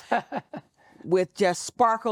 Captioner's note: chuckling